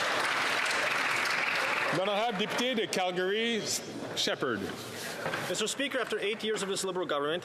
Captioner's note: some Applause